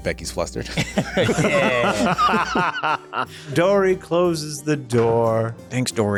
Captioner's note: laughter